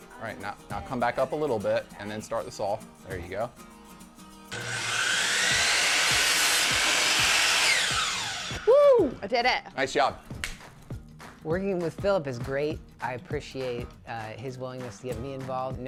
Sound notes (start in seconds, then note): 4.5 saw roaring; 8.6 cheers